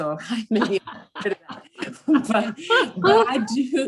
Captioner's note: everyone laughing